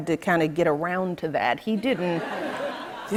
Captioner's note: light laughter